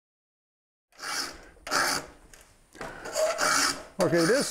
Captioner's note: metal-on-metal scraping